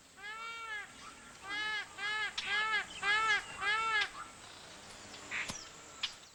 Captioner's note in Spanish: graznidos